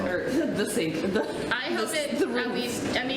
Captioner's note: laughs